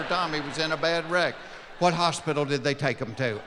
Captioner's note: laughing